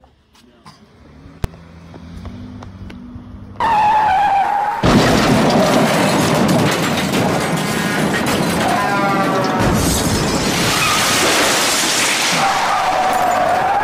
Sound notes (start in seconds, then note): 0.9 engine revving; 4.8 crashing